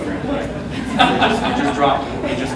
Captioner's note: audience laughs